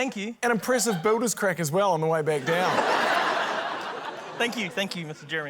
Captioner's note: laughter